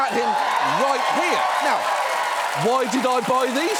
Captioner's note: audience cheers, applauds